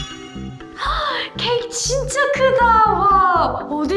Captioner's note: gasp